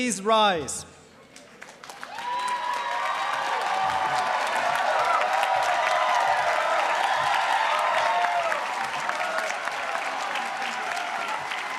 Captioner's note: cheers, applause